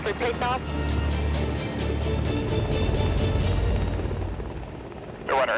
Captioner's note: helicopter blades thudding